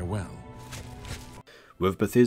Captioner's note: over encumbered footsteps